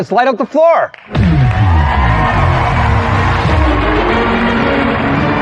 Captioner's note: cheering and applause; dramatic music